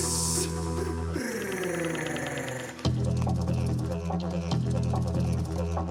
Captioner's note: man vocalises